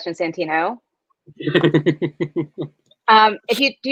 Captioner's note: Santino laughs